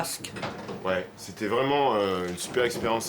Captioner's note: speaking French